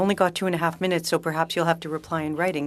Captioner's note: speaking french